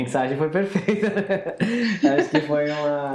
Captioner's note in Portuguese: Risos